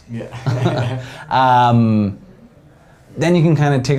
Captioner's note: both laugh